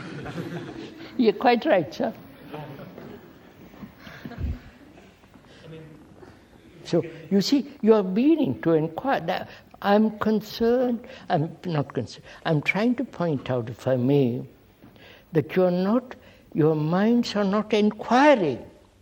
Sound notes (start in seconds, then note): 2.3 laughter